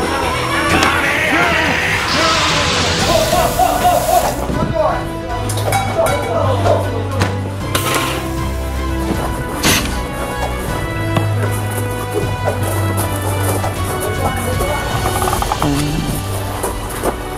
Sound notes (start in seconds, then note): 15.1 boing